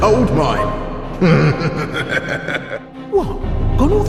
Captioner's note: chuckles